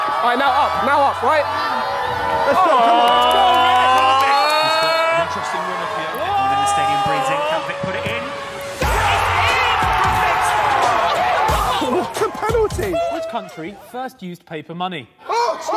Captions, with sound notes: - All right, now up, now up, right? (all yelling) (Sidemen cheering) - It was the penalty. - Which country first used paper money?